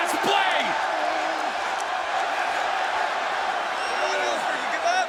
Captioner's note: crowd cheering